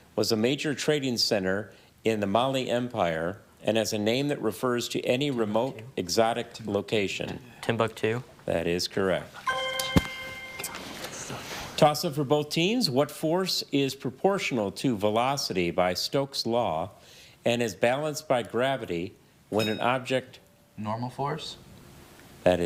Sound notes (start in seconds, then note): 9.4 chime resonating; 19.5 bell dings